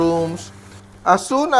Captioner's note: sizzle